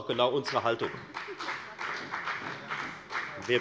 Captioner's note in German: Beifall bei der FDP und bei Abgeordneten der CDU